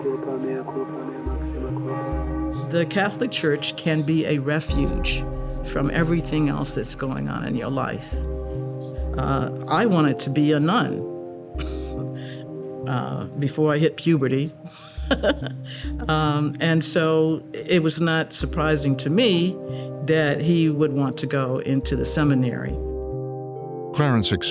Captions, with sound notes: >> Mea culpa, mea culpa, mea maxima culpa. >> The Catholic church can be a refuge from everything else that's going on in your life. I wanted to be a nun. (laughs) Before I hit puberty. (laughing) And so, it was not surprising to me that he would want to go into the seminary.